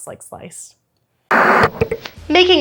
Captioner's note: TV static